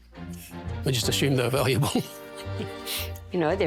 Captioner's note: chuckles